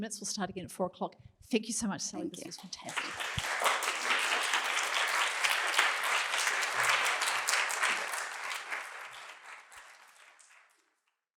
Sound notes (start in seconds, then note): 3.8 applause